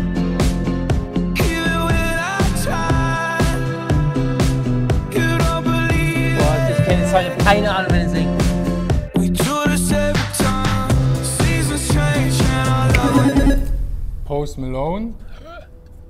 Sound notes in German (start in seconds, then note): 12.7 Buzzer